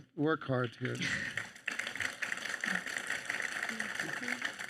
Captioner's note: audience applauds